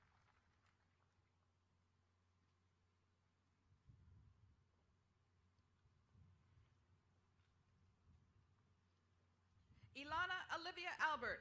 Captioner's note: applause